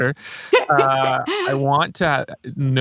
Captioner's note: laughing